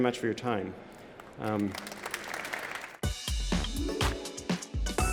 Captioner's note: applause